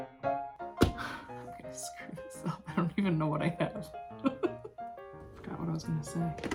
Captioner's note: laughter